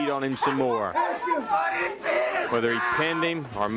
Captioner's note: crowd chatter